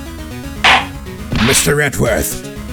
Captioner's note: gavel slams!